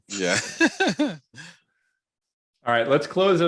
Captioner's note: laughs